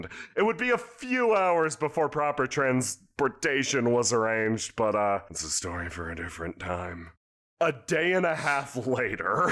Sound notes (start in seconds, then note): 4.9 whispers